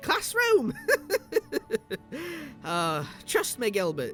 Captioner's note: he chuckles